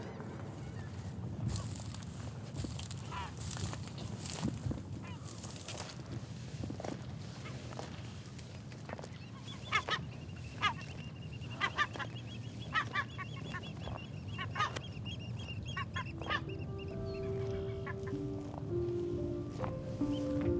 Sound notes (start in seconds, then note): 1.4 grass crunching; 9.6 bird squawking; 15.7 nostalgic music playing